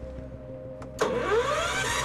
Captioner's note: cranking